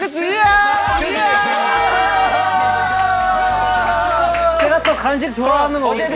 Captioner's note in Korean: 소리질러